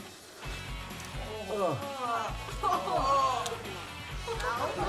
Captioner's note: groaning and gagging and laughter